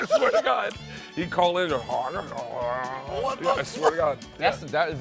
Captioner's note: mumbles